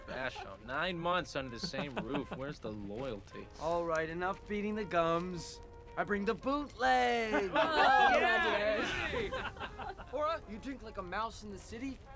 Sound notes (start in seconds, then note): 7.2 group laughs and cheers